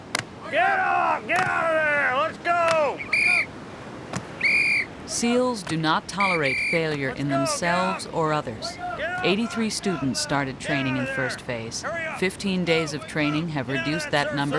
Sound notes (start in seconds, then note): 4.3 whistle blows